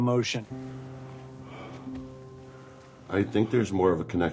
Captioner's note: panting